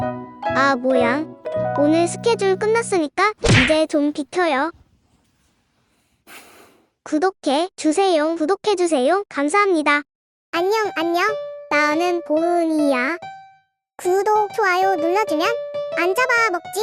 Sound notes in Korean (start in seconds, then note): 6.2 한숨